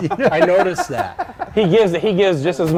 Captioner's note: laughter